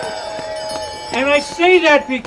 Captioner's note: audience cheering